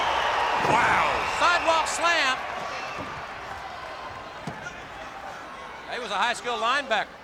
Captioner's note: applause